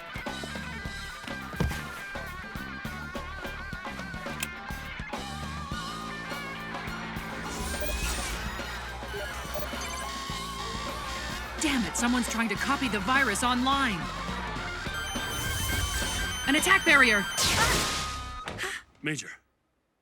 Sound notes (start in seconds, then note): 10.3 alarm beeping; 14.6 alarm beeping rapidly